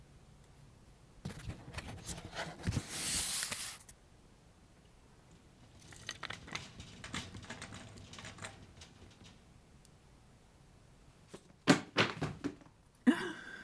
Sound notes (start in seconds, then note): 5.1 book cart rolling again; 11.3 books dropping to the floor